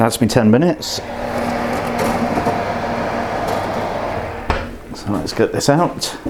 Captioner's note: oven roar